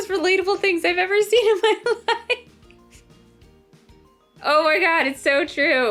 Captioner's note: more Laughing!